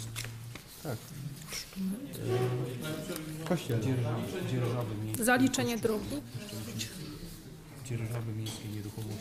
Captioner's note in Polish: głosy w tle